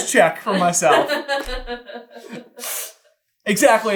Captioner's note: laughter; sniffing